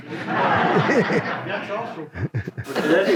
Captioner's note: audience laughs